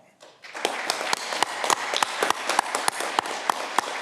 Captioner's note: audience clapping